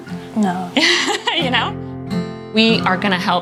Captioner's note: laughs